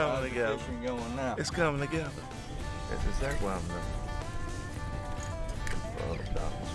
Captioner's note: men chatting; upbeat country music